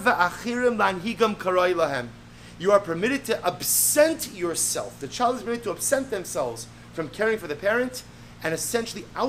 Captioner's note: Hebrew